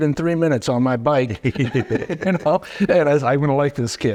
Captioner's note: both chuckling